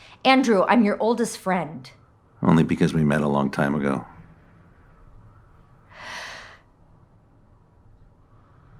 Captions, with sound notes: Andrew, I’m your oldest friend. Only because we met a long time ago. (inhale)